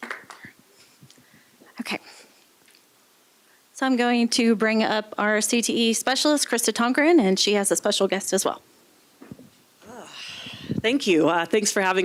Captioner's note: applause